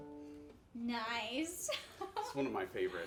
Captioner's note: laughs